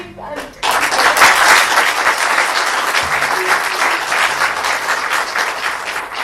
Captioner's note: applause